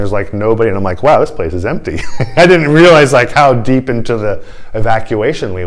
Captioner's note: laughter